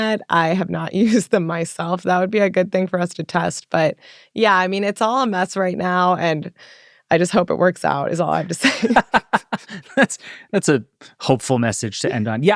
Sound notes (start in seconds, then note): 8.3 group laughing